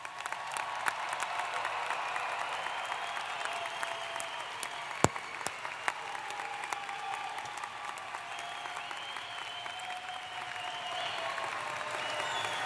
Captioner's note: applause